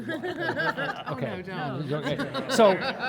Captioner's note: panelists laughing and cross-talking